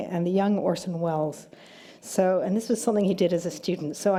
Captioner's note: none